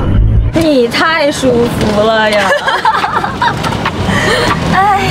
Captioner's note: ha ha ha ha ha ha